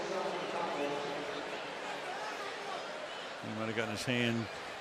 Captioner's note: pa announcement